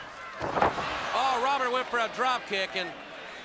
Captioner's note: crowd cheering